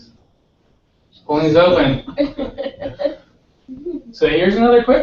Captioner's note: laugh